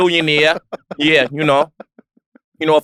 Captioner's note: laugh